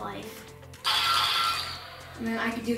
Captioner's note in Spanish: alarma suena